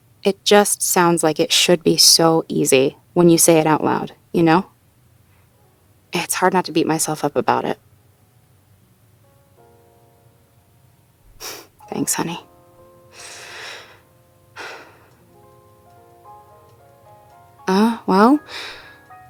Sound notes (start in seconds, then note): 11.1 sighs; 13.1 speaker takes another deep breath